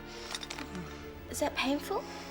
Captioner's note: groans